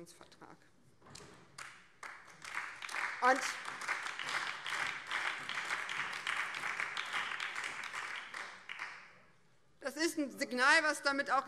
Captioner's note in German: Beifall BÜNDNIS 90/DIE GRÜNEN